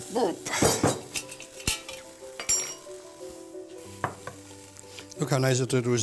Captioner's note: sizzling